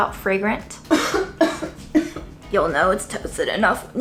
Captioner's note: coughing